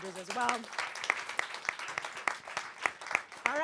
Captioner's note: applause